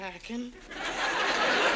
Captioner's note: audience laughs